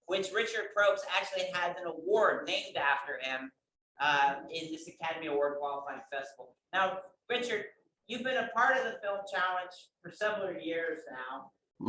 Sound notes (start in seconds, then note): none